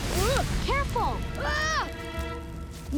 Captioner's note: screaming